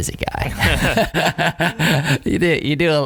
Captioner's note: laughing